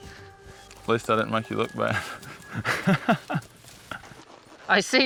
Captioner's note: chuckles